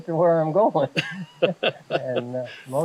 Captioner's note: both laughing